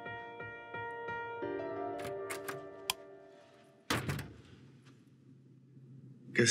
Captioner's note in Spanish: sonido al abrir y cerrar la puerta